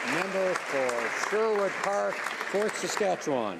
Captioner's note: some Applause